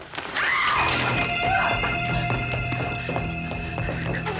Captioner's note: Emily screaming